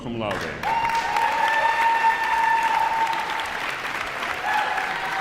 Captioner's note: audience applauds